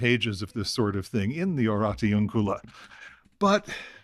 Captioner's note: non-english